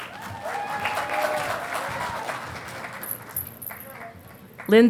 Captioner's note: audience applauding